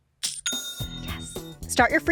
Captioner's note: cash register dings